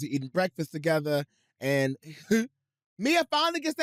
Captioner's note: chuckles